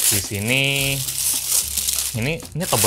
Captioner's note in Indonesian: suara kresek